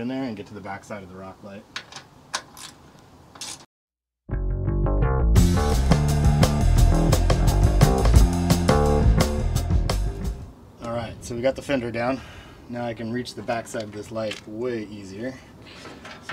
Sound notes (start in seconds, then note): 3.4 wrench ratchets; 4.4 upbeat jazz music